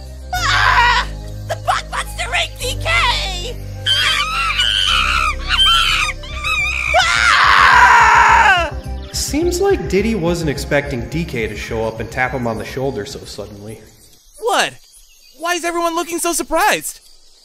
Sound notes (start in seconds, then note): 3.6 panicked primate noises; 8.9 music fades out